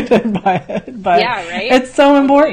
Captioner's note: laughs